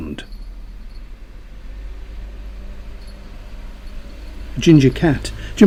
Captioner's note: jingling bell, rumble of a vehicle